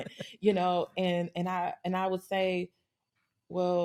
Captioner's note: laughter